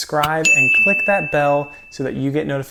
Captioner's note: bell chiming